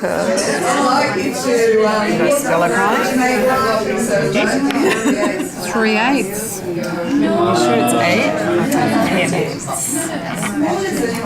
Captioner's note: audience chatter